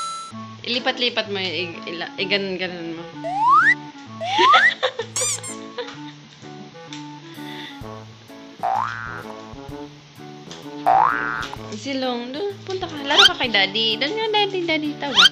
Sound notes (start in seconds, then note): 4.2 laugh